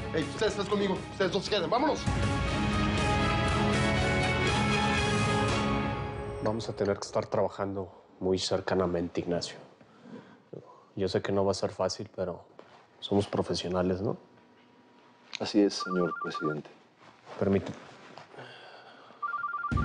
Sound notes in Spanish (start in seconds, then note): 15.7 Suena el celular